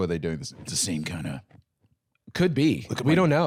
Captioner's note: deep voice